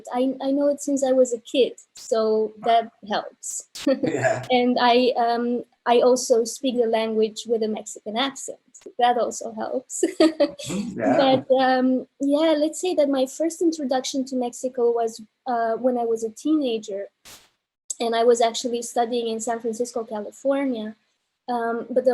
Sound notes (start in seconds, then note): 10.0 laughs